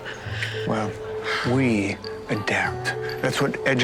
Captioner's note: sighs